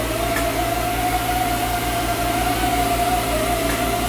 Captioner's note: machine humming